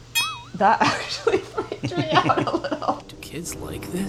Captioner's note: laughing